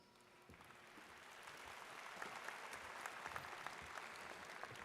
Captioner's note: audience claps